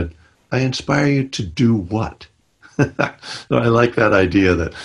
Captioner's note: laughs